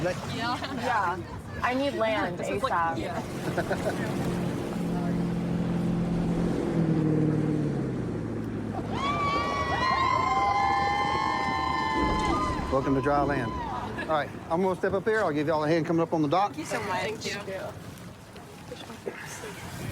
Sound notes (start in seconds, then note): 6.4 laughs; 8.8 cheers